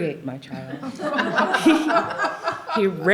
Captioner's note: laughter